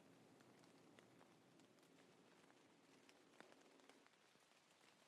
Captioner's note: rain pouring